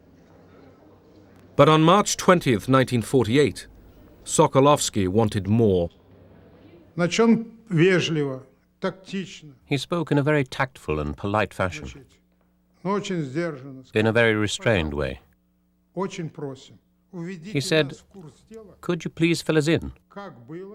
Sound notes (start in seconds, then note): 7.3 speaking russian